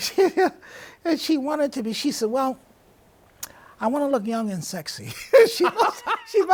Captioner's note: laughs; both laughing